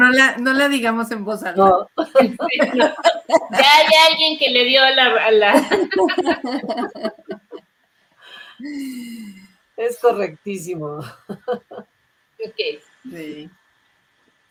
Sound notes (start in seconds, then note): 0.9 laughs